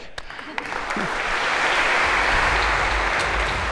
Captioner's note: applause